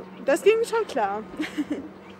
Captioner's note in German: lacht